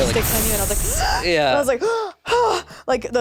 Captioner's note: gasps